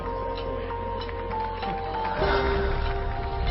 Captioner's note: scattered applause